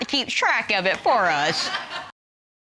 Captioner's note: audience laughing